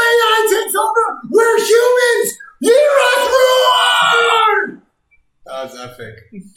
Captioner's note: shouts